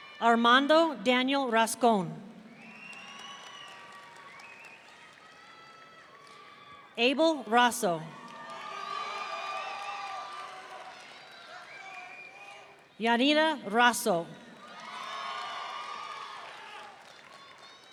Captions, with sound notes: Armando Daniel Rascon. (audience cheering) Abel Raso. (audience cheering) Yanira Raso. (audience cheering)